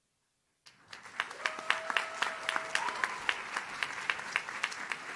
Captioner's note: audience claps